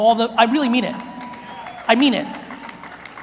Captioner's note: audience cheers